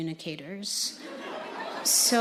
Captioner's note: audience laughing